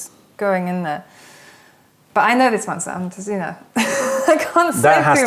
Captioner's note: laughter